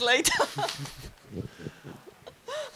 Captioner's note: laugh